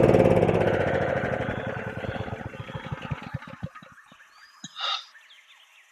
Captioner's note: generator whirring loudly